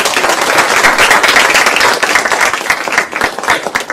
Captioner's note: applause